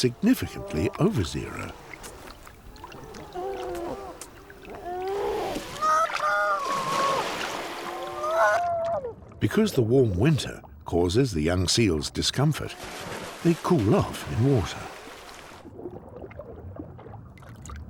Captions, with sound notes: significantly over zero. [seal squealing] Because the warm winter causes the young seals discomfort, they cool off in water.